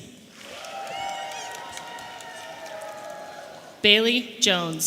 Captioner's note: audience applauding and cheering